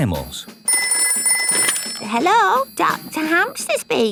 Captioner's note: ringing